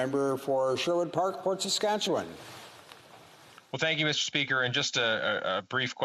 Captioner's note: speaking French